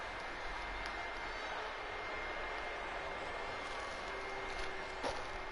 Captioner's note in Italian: Applauso; Applauso